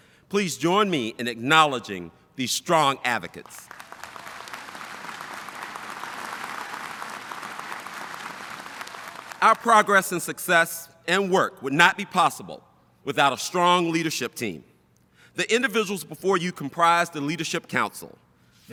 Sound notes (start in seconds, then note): 3.6 audience applauding